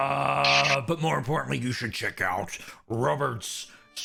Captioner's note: cowboy accent